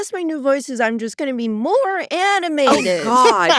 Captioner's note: in cheerful tone; laughs